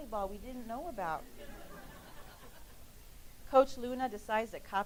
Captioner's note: laughing